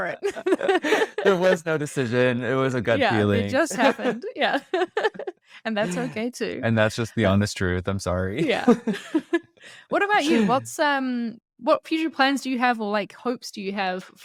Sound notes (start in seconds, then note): 0.0 laughs